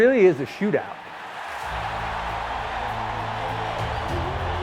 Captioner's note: crowd cheering